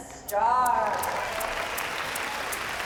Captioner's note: cheering and applause